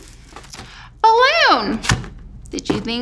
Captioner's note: balloon thumps